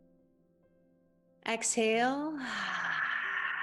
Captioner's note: exhales deeply